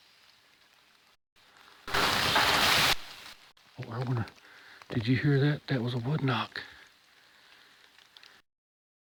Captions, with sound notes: (knock whacks) Oh, I don't wanna, did you hear that? That was a wood knock?.